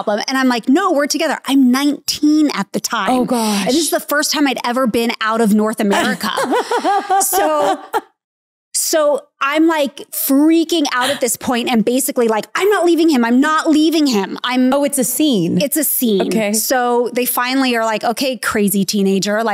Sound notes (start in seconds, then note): 5.9 laughs